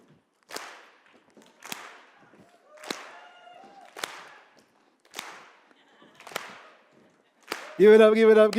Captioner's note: clap